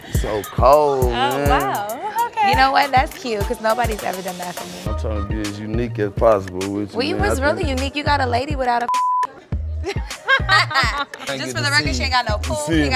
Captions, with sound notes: - You're so cold man! - Oh, wow okay! - You know what, that's cute 'cause nobody's ever done that for me. - I'm trying to be as unique as possible with you. - Well, you was really unique. You got a lady without (beep). Just for the record she ain't got no pool,